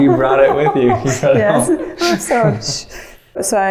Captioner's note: chuckles